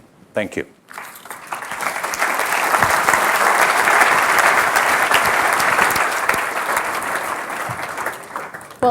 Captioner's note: applause